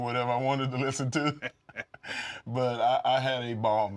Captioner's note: laugh